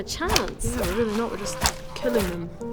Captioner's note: fwip